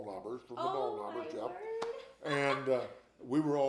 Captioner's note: laughs